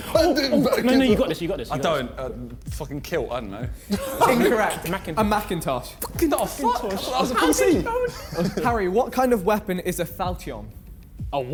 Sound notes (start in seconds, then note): 3.8 men laughing; 7.2 men chattering